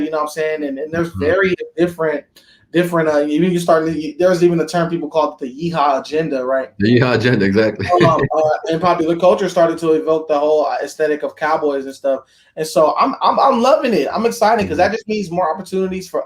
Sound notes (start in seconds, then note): 6.8 laughs